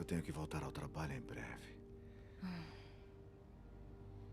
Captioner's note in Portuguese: suspiro